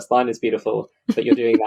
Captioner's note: laughs